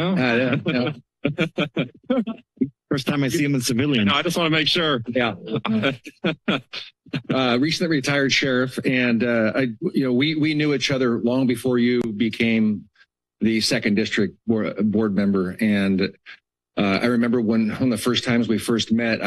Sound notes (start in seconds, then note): 0.4 laughter; 5.6 laughter